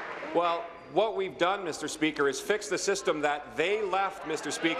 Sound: applause

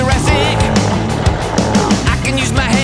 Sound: roar

